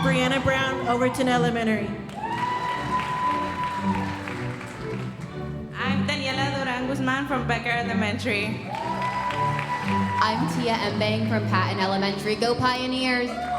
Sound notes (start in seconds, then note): 2.0 audience applauding; 8.6 audience applauding